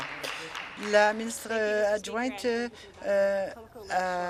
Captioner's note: applause